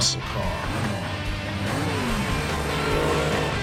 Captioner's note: engine revs up